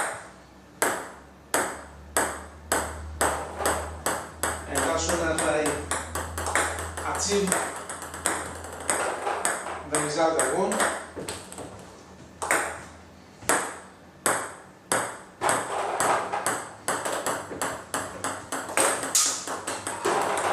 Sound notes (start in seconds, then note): 0.2 ball ping pong hitting; 14.8 ball ping pong hitting